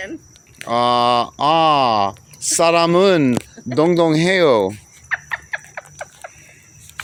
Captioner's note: laughing